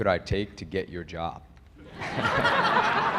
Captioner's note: laughter